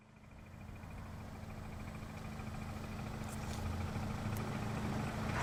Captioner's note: car engine hums